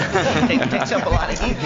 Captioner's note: laughter